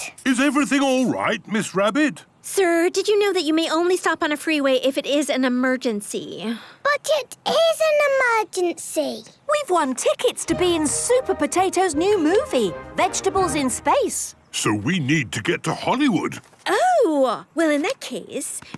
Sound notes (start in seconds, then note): none